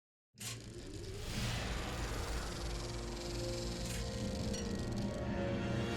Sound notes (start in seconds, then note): 1.1 film reel humming